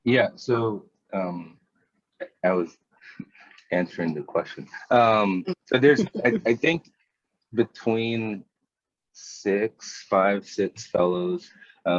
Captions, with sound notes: - Yeah, so I was answering the question. (laughing) So there's, I think, between six, five, six fellows.